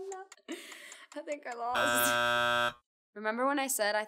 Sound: buzzer buzzing

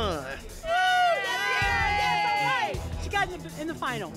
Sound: cheering

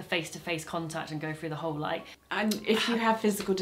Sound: she sighs

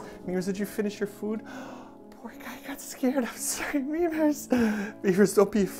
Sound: gasp

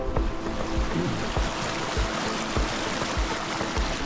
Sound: water bubbling

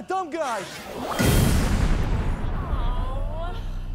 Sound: explosion

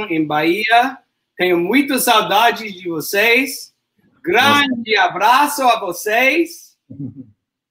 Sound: speaks portuguese

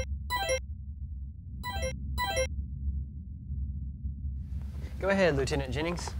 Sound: tone ringing

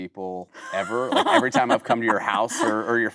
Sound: Kate laughing

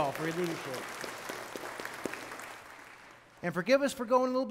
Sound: congregation clapping

